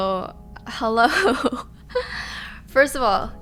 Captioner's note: she laughs